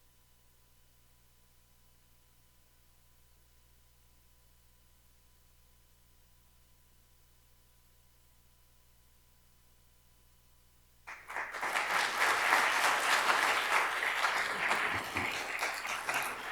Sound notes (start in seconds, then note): 11.0 attendees applauding